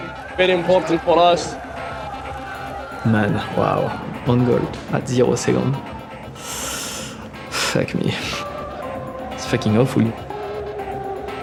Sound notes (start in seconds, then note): 6.2 inhales sharply